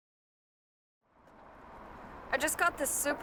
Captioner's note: faint traffic noise